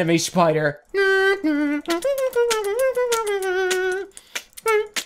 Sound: beatboxing

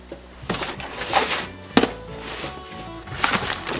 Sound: scraping

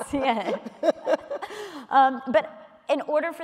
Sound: laughter

